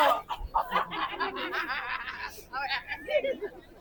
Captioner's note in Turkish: kahkaha